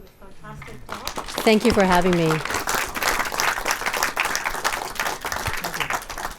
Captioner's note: audience clapping